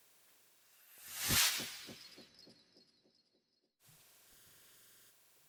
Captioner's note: sound effect